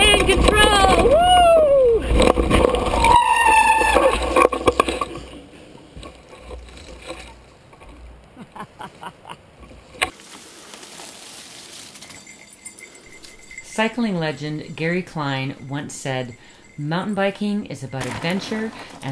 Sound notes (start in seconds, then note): 2.7 shrieking; 8.3 laughing; 12.3 bells jingle